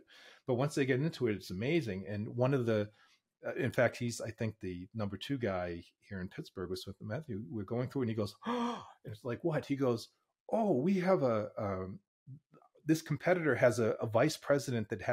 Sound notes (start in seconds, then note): 8.4 gasps